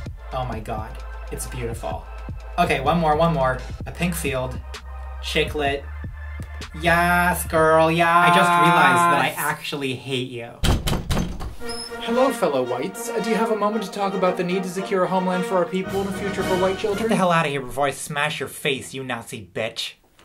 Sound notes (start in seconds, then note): 10.6 knocking